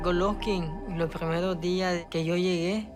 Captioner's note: speaking Spanish